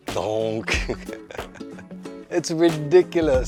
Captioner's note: chuckles